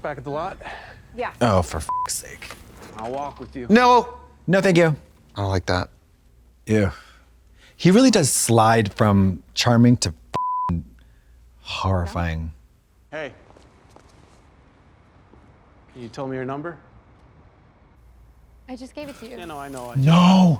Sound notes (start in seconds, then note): 10.4 beep